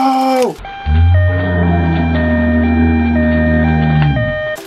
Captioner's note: ambulance siren